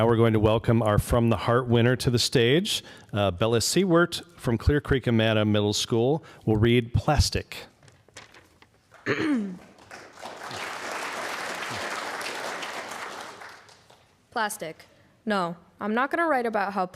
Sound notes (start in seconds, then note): 7.8 applause